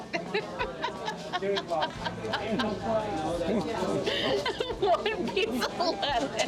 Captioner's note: laughing